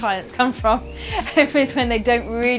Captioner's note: laughing